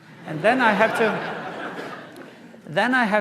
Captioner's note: laughter